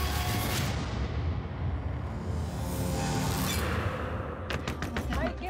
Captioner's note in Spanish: toques fuertes en la puerta